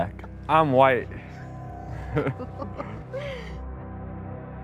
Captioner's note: chuckles; ethereal music